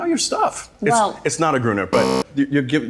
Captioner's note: buzzer interrupts